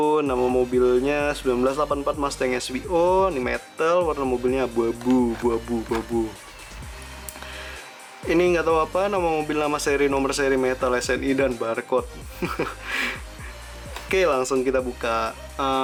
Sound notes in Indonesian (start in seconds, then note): 12.3 tertawa